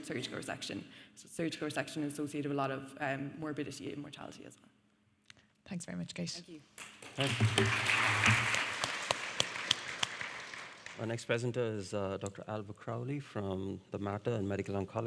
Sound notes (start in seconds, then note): 6.7 audience clapping